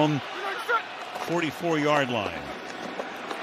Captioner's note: cheering and applause